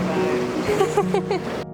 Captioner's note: laughter